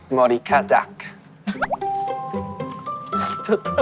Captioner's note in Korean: 웃음